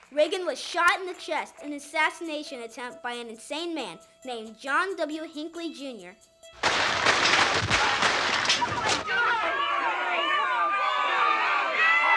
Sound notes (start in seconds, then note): 6.6 gun shots; 8.4 screaming